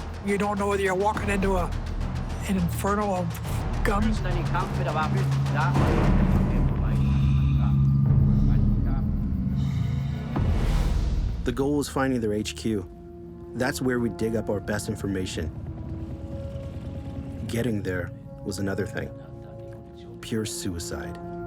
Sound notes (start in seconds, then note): 4.8 speaking German; 8.4 crickets chirping